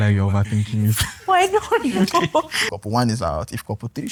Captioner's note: laughs